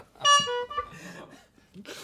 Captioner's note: laughs; honk